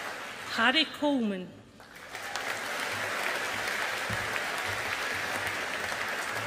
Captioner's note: audience applauding